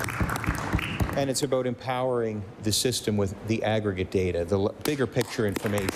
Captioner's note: applause